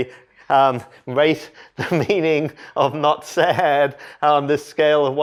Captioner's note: laughter